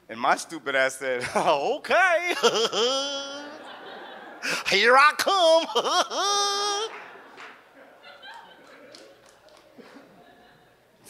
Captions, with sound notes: And my stupid ass said, "Oh, okay!" (laughs) (audience laughs) "Here I come!" (laughs) (audience laughs)